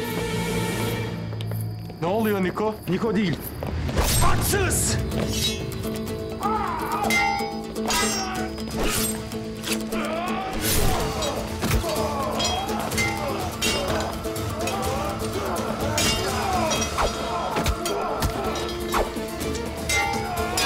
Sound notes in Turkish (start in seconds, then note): 4.3 Kılıç sesleri; 6.1 Dövüş sesleri; 6.1 Kılıç sesleri; 13.5 Müzik - Gerilim